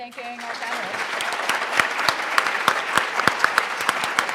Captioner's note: applause